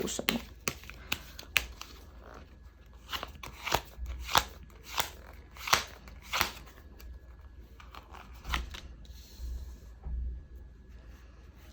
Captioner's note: drawing cards